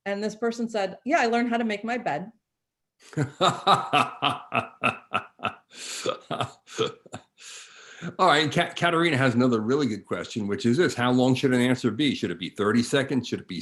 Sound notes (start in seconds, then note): 3.1 laughing